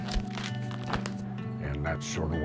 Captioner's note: sounds of paper flipping